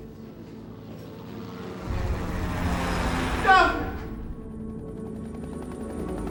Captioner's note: plane engine humming; helicopter chopping